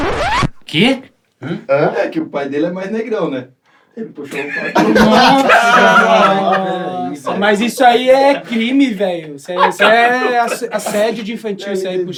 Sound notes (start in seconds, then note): 4.3 risos